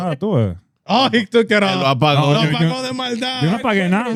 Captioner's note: speaking In Foreign Language